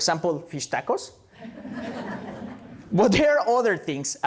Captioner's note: laughter